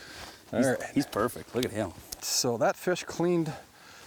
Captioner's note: voiceover